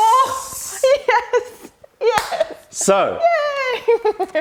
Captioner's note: laughter